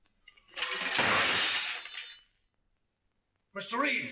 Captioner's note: loud crashing